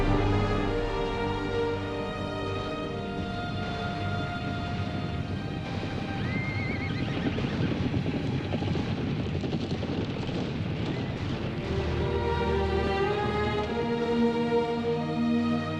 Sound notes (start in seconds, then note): 2.1 moves to tense sorrowful music; 6.2 horses whinnying; 7.6 fire roaring; 11.5 sorrowful music grows